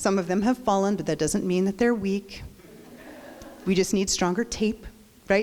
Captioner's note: crowd laughs